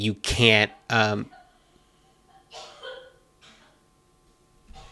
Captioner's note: coughing